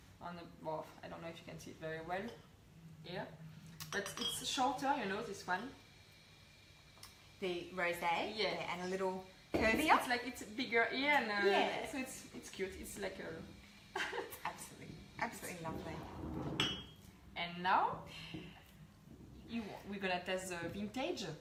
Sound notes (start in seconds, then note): 14.0 chuckles